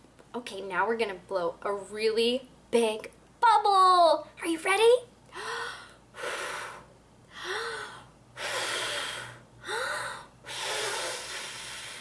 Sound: blowing sounds

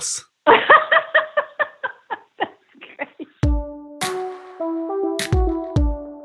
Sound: laughing

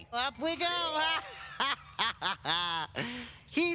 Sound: laughs

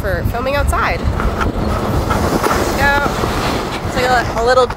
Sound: traffic whooshing, rumbling

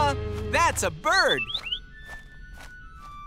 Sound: chirping

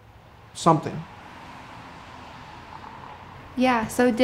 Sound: traffic sounds

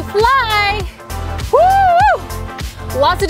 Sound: screams

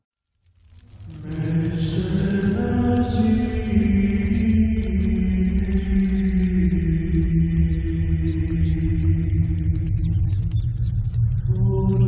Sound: chanting

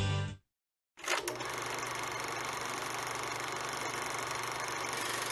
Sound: soul music plays; film projector rolling

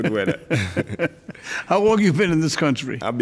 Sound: laughing

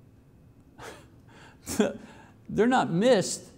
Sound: chuckles

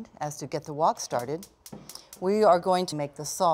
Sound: stove clicking

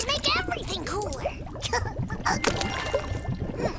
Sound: chuckles

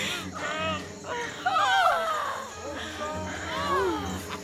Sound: yelps

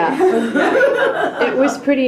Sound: laughing

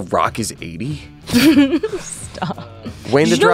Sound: laughing

